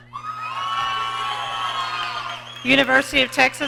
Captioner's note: audience cheering